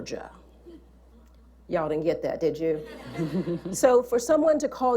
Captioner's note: laughter